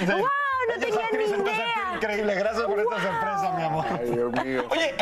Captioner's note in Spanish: risas